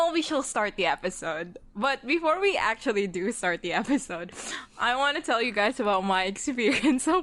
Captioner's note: laughing